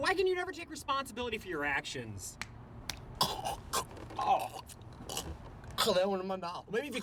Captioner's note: gagging